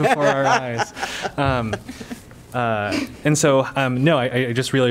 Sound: laughter

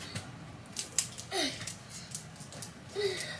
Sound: grunts as she get's up

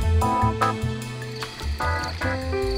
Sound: crickets chirping; soft piano music

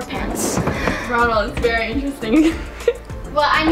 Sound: laughs

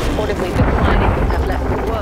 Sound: iceberg crashes

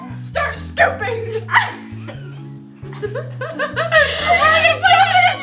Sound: laughter

